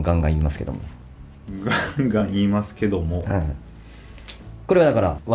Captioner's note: laughs